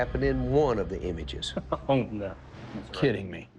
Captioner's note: laughs